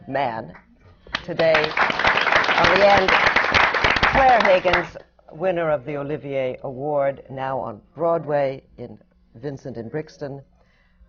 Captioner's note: applause